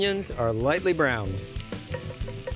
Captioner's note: spoon tapping